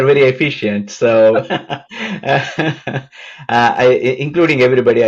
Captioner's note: laughs